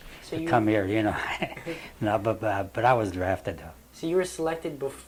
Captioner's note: laughs